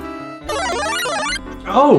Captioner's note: distorted powerup sound